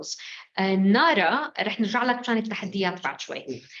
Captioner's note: speaking arabic